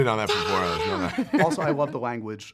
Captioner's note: laughs